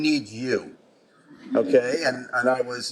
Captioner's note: chuckling